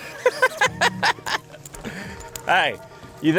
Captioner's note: laughs